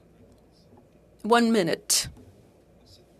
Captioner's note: speaking French